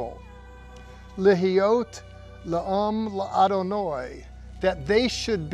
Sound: speaking in Hebrew

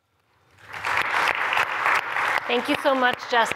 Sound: applause

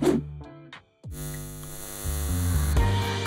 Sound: eyes buzzing; light upbeat music

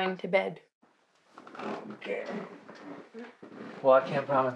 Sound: bed squeaks

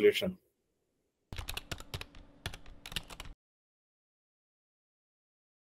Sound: typing sounds

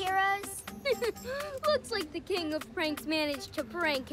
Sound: chuckles

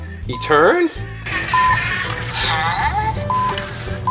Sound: whirring

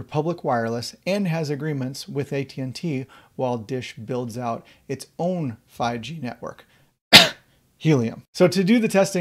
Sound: cough

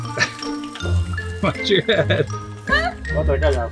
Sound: laughs

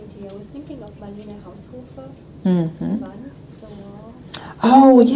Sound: speaking in foreign language

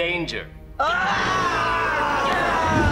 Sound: groaning

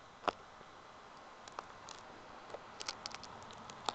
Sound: flesh cracking

